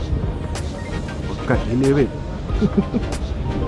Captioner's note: laughs